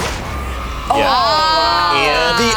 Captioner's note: children cheering; poppers popping